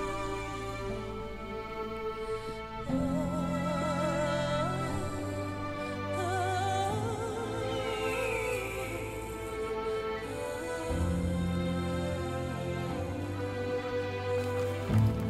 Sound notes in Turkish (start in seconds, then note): 7.6 Kuş cıvıltısı sesi; 8.9 Müzik devam ediyor